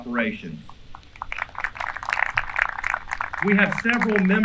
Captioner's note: applause